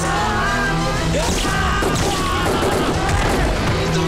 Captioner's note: Gunshots